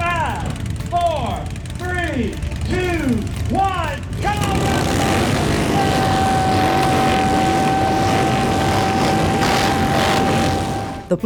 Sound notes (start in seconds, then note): 6.2 crowd cheering; 6.2 engine roaring